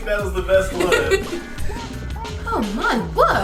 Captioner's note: laughs; woman laughs